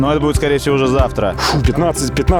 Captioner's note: sigh